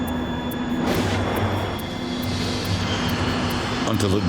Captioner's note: metal ripping